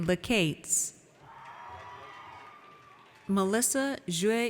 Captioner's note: audience cheers